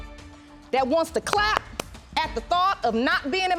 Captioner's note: claps